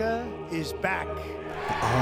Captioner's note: applause